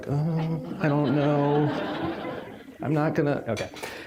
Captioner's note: audience laughing